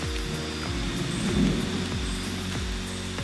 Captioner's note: thunder